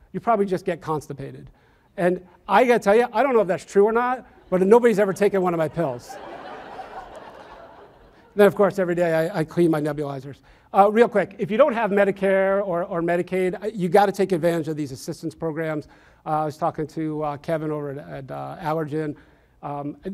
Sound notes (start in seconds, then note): 6.2 audience laughs